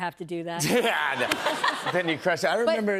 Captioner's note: laughter